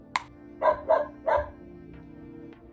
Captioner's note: dog barking